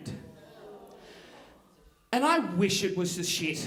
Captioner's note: audience groaning